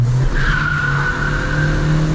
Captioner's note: tires scraping